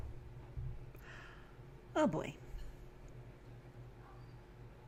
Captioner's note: gasp